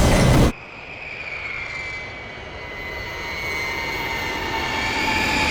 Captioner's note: drone falling; drone rattling